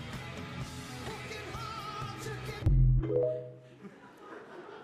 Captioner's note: tiktok logo sound; laughter